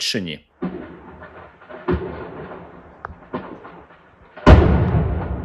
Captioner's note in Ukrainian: серія вибухів; вибух